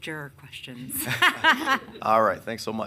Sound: laughing

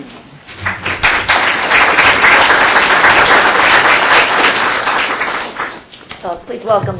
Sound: applause

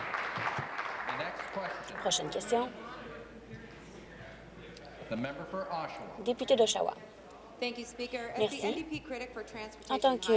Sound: applause

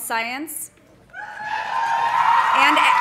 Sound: audience cheering; audience applauding

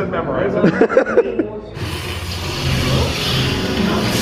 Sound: laughs; intense music

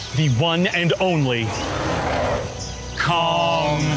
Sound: Kong roaring

